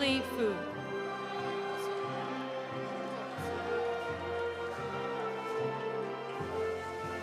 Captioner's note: audience applauding; audience cheering